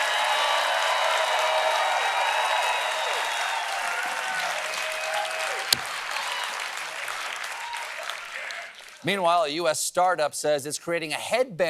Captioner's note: cheering